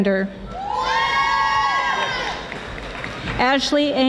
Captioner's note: audience applauding